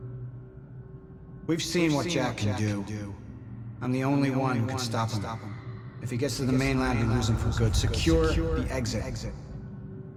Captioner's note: as an echo from the past